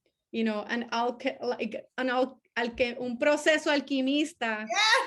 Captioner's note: speaking foreign language; laughing